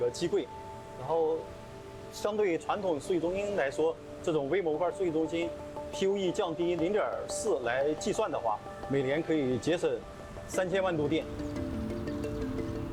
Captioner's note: speaking chinese